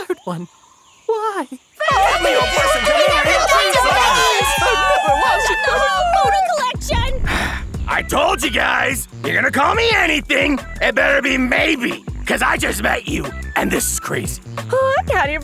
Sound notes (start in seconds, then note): 1.8 fairies cheering; 7.2 sighs